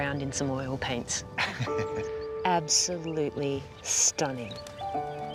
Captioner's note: chuckles